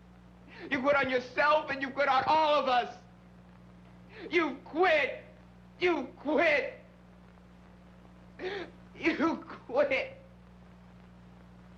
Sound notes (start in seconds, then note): 8.4 sobbing